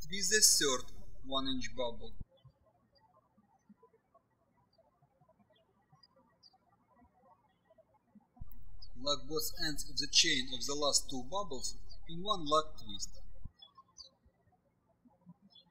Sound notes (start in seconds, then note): 0.0 birds chirping; 3.2 birds chirping; 15.5 birds chirping